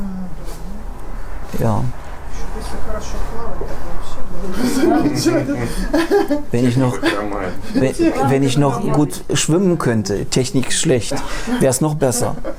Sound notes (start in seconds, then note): 4.5 laughter